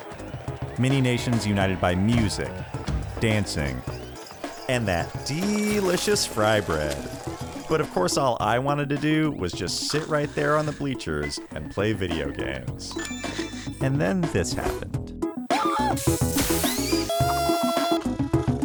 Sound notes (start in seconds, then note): 16.0 electric crackling; 16.5 vendor screaming; 18.3 upbeat retro music